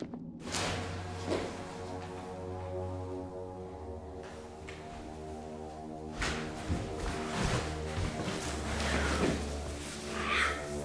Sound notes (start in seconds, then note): 0.8 light dramatic music; 6.0 rustling